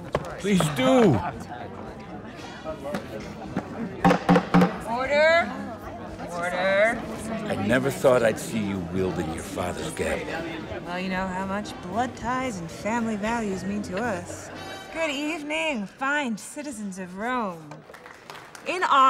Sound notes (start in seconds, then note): 4.0 banging gavel; 17.8 applause